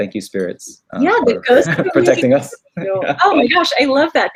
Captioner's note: laughs